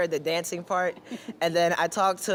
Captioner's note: laughing